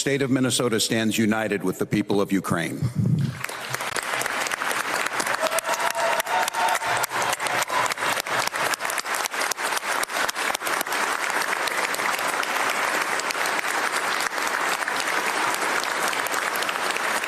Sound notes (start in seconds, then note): 5.0 applause; 7.5 cheers & Applause